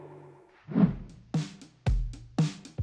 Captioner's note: air whooshes; spirited music